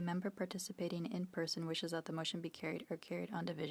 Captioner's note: speaking French